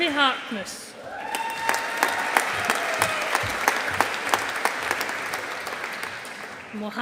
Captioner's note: audience applauding